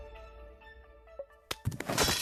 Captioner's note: clang